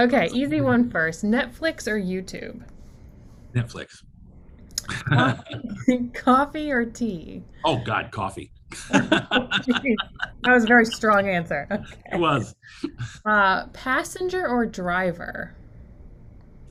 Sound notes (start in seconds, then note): 4.8 both laugh; 8.7 laughs